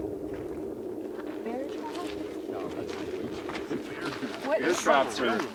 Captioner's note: footsteps crunching